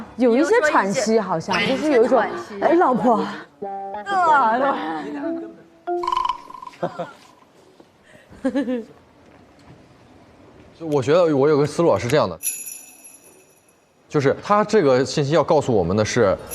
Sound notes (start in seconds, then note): 5.9 laughter; 6.7 the investigators burst out laughing